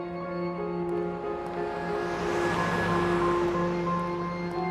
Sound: somber dramatic music; cars whooshing

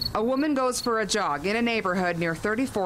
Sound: nat crickets

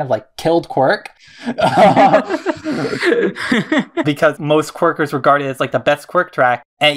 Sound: both laugh

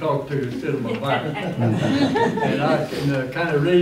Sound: laughter

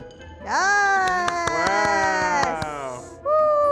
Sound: cheering

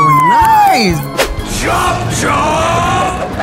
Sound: Emily cheers; screen whooshes

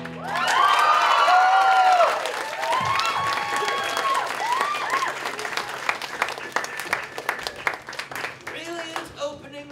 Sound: applause

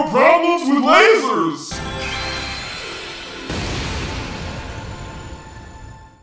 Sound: a magical laser sounds and explodes

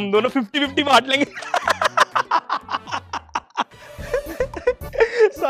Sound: laughing

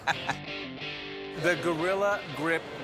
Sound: laughter

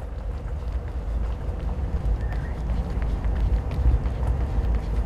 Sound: quietattering footsteps

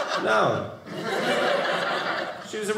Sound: audience laughing

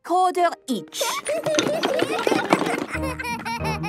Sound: laughter

